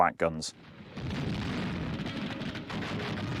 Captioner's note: firing